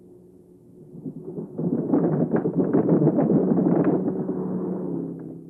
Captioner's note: wooden bridge clacking